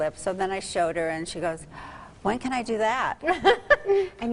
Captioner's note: gasp